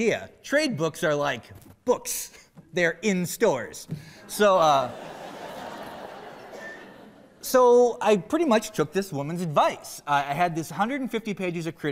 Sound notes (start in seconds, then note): 7.5 laughter